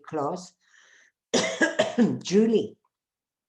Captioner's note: coughs